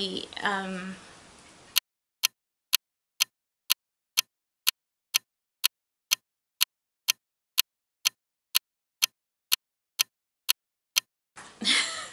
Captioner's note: ticking clock sound